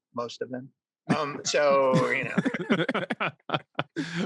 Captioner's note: all laugh